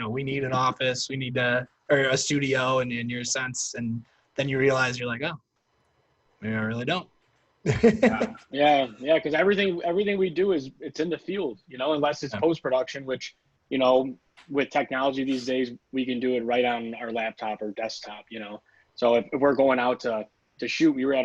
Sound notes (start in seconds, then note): 7.6 laughs